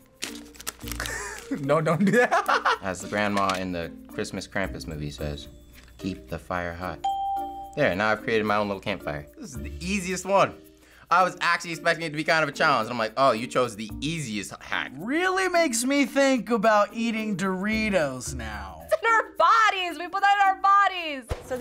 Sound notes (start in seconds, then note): 1.9 laughs; 7.0 ding